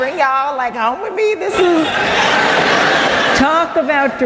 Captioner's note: laughter